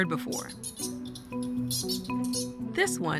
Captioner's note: bat squeaks